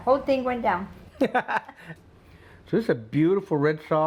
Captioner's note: laughs